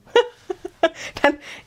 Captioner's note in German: gelächter